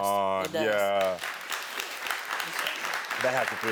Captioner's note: audience clapping